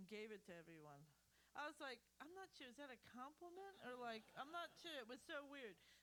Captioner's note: laughter